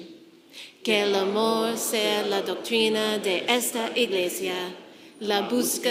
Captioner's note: church speaking in foreign language